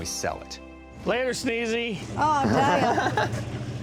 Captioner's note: laughs